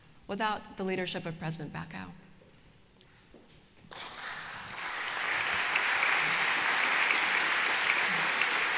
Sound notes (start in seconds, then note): 3.8 applause